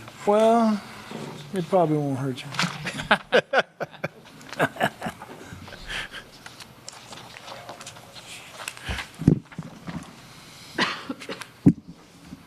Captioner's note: laughter